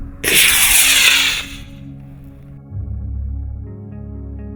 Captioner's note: rockets launching; soft music